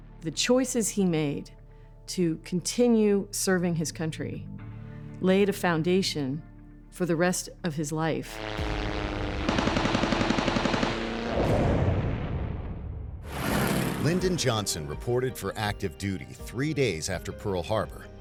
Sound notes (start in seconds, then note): 8.5 artillery fire